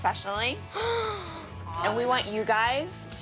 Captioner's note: gasps